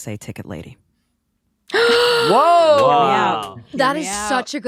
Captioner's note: all gasping